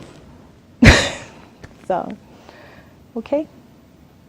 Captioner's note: laughs